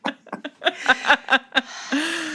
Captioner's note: laughter